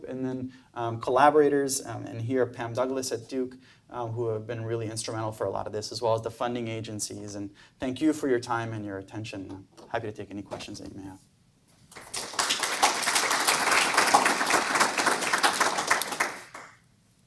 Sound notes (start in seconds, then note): 11.9 audience applause